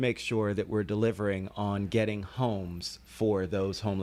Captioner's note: Hablando ingl\s